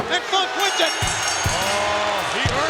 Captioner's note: bell rings